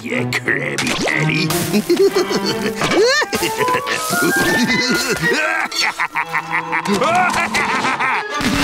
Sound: laughing

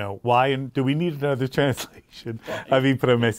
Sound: chuckles

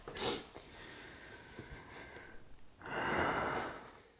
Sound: Con sighs

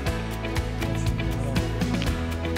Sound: Cantonese

